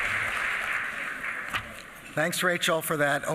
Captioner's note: applause